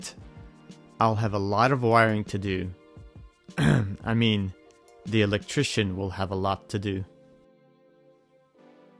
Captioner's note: cough